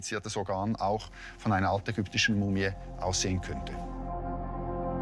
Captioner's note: speaks German; mysterious tones